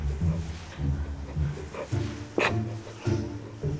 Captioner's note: holding back laughter